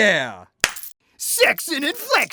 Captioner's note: hands slapping; chains jingling